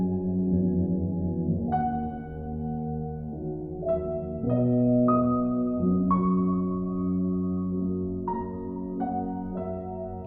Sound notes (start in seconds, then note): none